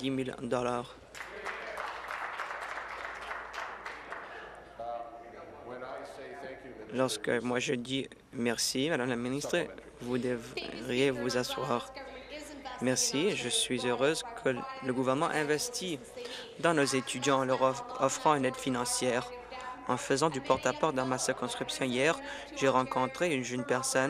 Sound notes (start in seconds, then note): 4.1 applause